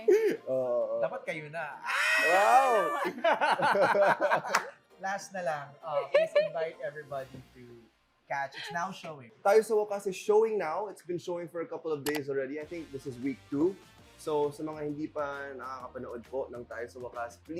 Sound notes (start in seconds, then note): 0.2 laughs; 1.7 shrieks; 2.2 laughs